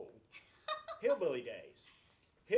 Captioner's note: laughs